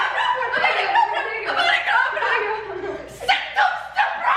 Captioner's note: kids yelling